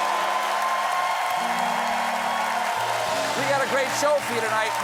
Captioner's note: cheers and applause